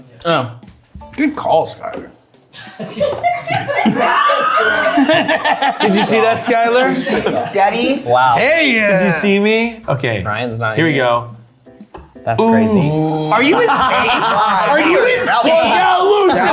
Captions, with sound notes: - Oh. - Good call, Skyler. (people laughing) - Thanks, Greg. - Did you see that, Skyler? - Wow. - Did you see me? - Ryann's not in. That's crazy. - Are you insane, are you insane, are you insane?